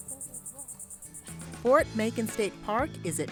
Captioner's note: fading chatters; upbeat music